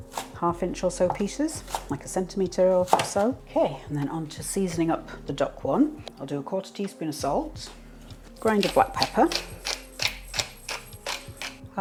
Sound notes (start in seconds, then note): 0.1 chop chop chop; 8.4 salt mill grinding